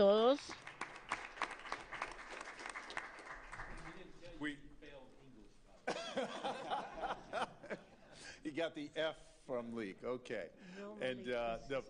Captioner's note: applause